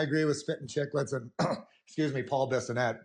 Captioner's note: coughs